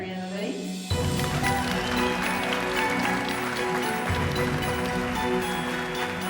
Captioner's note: gentle music; audience applauding